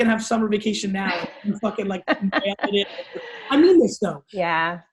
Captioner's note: laughs